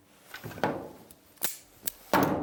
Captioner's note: click